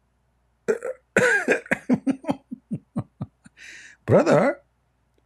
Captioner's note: Ketawa